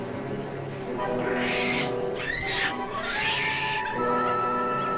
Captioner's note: monkey screeches